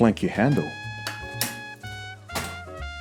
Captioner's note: handle clicks